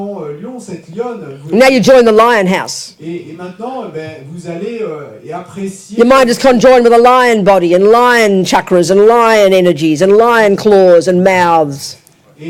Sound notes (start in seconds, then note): 8.2 audience member speaks in French